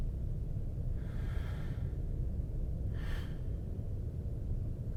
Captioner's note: heavy breathing